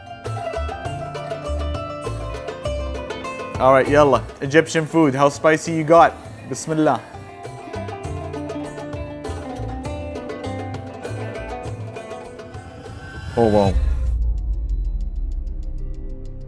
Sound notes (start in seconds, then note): 0.3 upbeat music; 4.0 speaks Arabic; 7.4 speaks Arabic